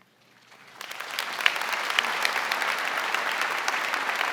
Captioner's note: audience applauding